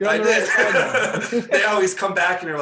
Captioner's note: laughing